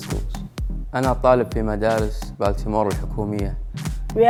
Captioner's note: speaking Spanish; speaking Arabic